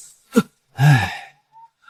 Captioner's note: sigh